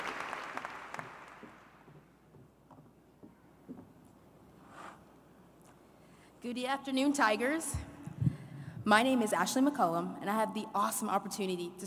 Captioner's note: applause